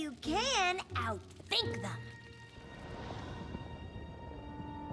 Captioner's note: flames crackling; suspenseful music plays